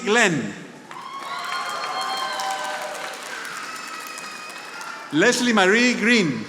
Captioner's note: audience applauding